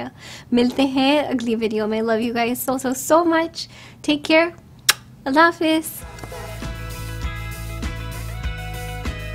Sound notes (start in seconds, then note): 4.8 blows kiss